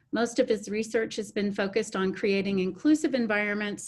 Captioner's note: none